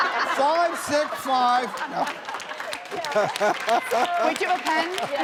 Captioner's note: audience laughing and clapping